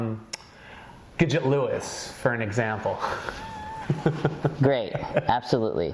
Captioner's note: chuckles